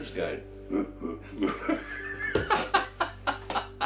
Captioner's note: gorilla noises